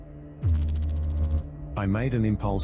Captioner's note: electrical noise